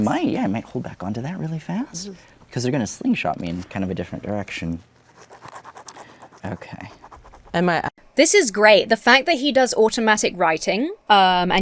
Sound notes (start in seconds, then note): 5.0 pen scribbles